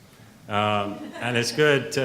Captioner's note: woman laughs